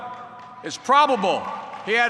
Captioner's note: applause